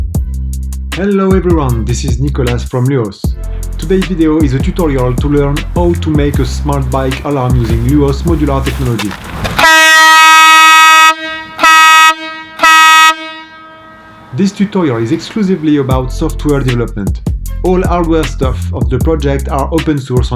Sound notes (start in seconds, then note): 9.6 horn